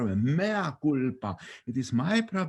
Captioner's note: speaking in foreign language